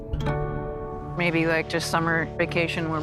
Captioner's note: none